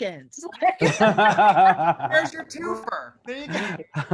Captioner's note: all laugh